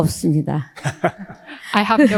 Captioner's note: speaking in foreign language; both laughing